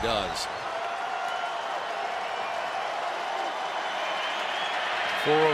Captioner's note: cheering